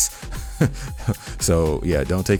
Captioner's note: laughing